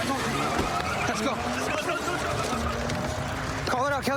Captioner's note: shouting